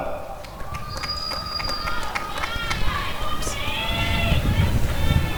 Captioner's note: applause and cheering